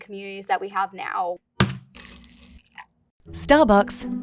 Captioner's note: bag thudding and coffee pouring